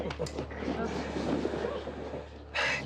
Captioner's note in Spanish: risas